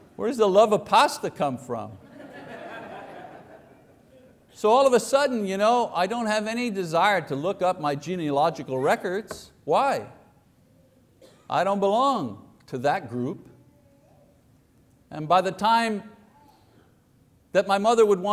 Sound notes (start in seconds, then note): 2.0 congregation laughing